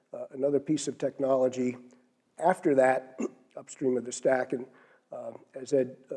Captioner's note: cough